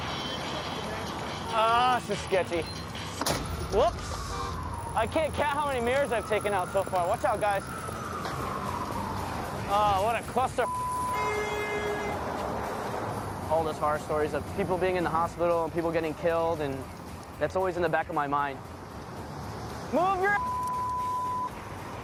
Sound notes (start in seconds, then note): 3.1 crash; 10.7 car horn honks